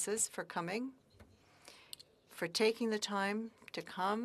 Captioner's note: speaking French